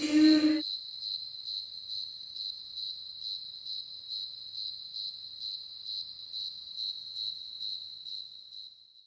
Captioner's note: cricket chirping reverb